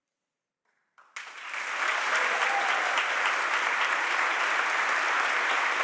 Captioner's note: audience applauding